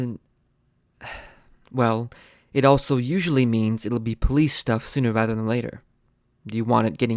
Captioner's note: sighs